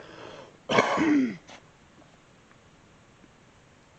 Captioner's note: coughs